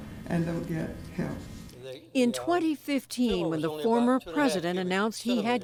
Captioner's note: voice-over